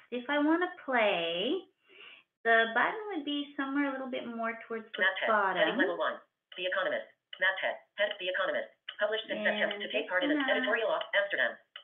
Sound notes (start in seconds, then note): 5.8 VoiceOver voice